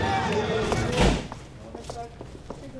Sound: door slams; soft orchestra music; people chattering

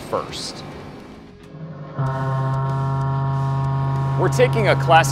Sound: machining noises

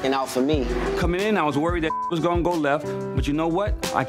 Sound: beep

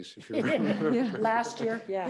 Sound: all laughing

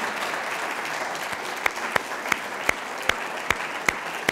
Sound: claps

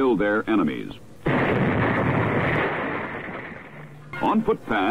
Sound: explosion booming

